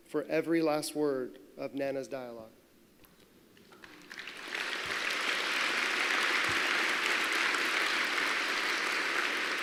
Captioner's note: applause